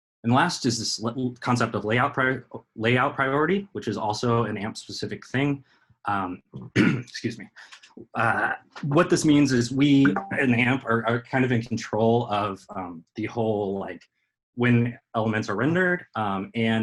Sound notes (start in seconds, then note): 6.6 coughs